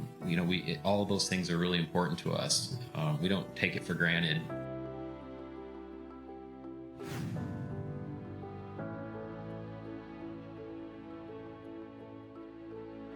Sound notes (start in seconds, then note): 7.0 arrow whooshes